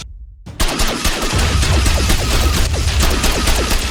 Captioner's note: explosion booms; gun blasting